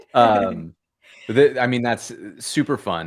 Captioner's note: laughter